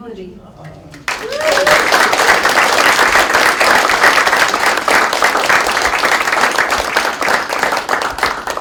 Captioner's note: applause